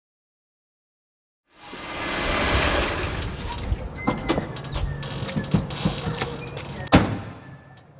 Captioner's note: sound of car pulling up, parking